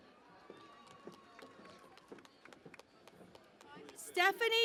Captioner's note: cheering and Applause